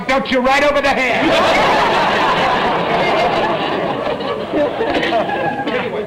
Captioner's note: audience laughter